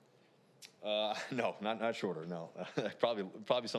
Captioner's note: laughs